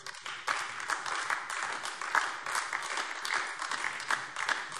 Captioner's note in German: Beifall AfD